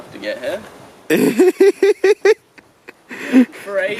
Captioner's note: laughing